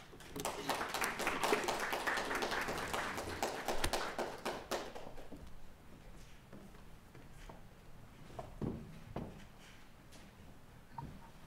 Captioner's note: applause